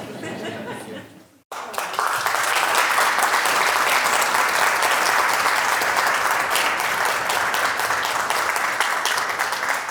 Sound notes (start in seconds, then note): 0.0 audience laughing; 1.5 audience applauding